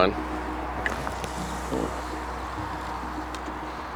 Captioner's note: fishing line whirring; sonar ball splashing